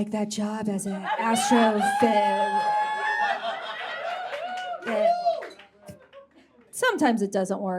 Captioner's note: whispery; stutters